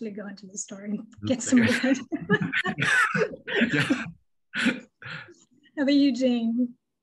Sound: laughter

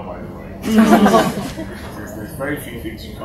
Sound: laughter

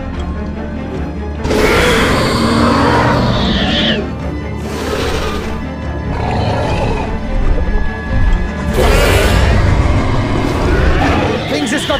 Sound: Indominus Rex roars

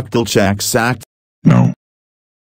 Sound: roars

